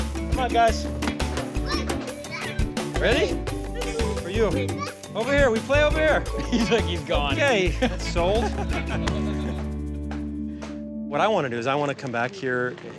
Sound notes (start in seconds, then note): 6.2 laughs; 7.6 laughter